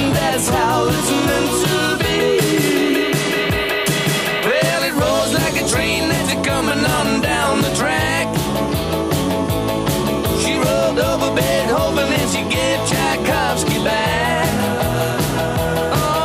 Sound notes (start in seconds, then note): 7.2 ooh, ooh, ooh